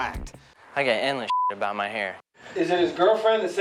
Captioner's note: beep